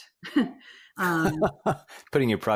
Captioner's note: laughs